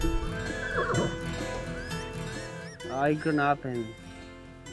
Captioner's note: horse neighs